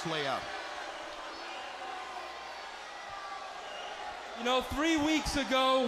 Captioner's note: crowd chatter